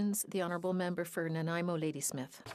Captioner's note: speaking French